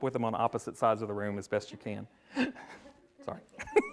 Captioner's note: laughs